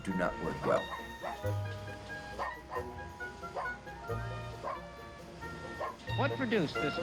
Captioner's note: dog barking